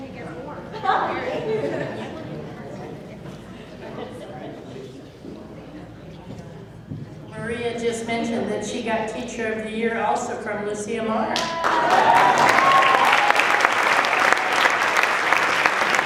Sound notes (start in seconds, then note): 3.4 laughing; 11.4 applause